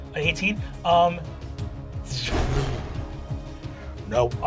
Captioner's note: tense music; whooshing